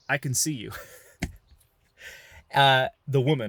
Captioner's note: chuckles